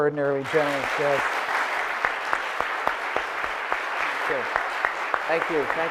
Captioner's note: audience applauding loudly